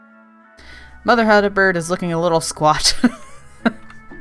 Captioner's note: laughs